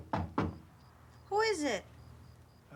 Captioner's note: knocks on the door